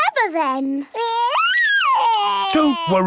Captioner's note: crying